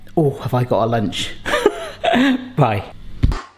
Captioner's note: laughs